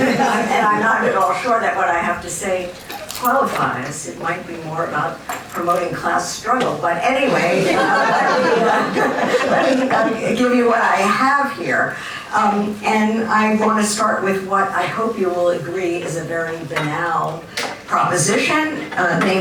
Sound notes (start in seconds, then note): 7.2 laughter